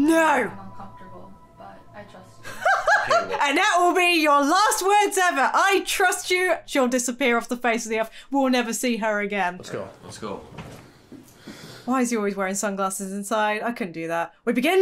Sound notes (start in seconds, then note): 2.4 laughing